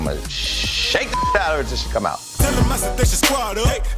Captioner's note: beep